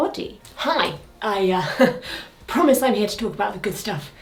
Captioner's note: chuckles